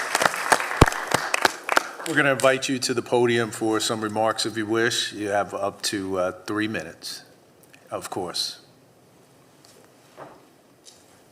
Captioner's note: applause